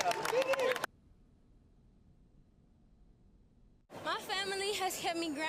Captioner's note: silence